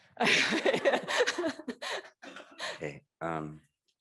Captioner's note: laughs